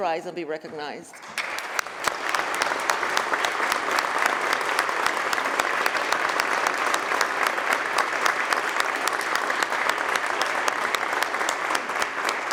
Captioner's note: applause